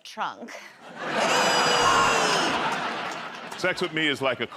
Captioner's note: laughter